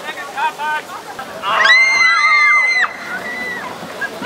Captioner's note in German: schreie